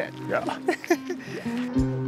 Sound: laughs

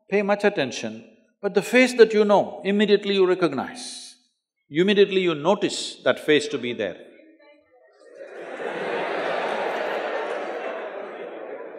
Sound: laughter

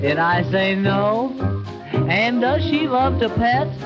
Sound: none

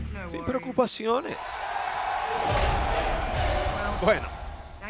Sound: applause

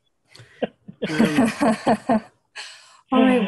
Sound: laughter

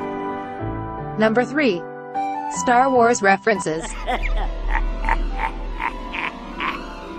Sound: evil laughter

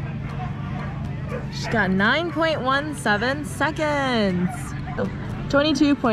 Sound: dogs barking

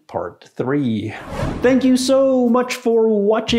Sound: whooshing

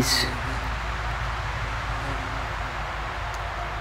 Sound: insect buzz

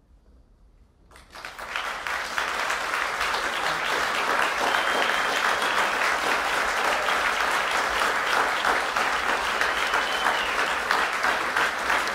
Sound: applause

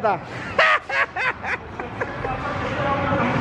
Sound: laughs

